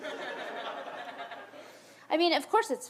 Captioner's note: audience laughs